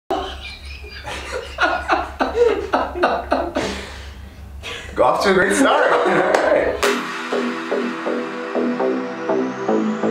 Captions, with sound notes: (laughing) - Off to a great start. (upbeat techno music)